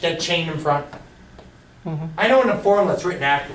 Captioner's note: voiceover